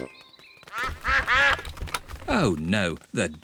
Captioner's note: quacking